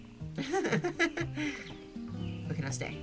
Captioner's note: giggles